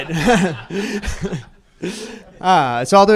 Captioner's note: laughter